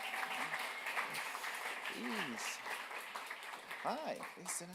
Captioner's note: audience applauding